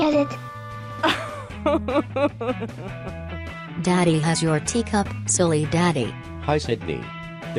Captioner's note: laughs